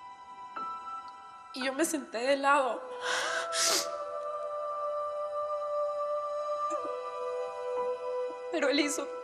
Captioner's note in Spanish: Sollozos ahogados